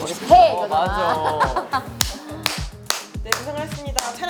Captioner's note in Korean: 만족한 듯 박수